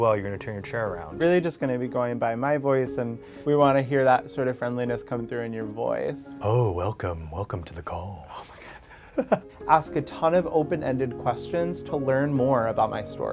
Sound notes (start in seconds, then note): 6.2 sultry voice